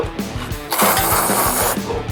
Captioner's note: slurping noises